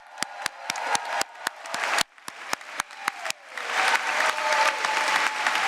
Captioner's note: applause